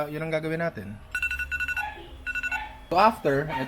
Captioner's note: timer beeps